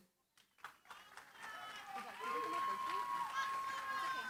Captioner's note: applause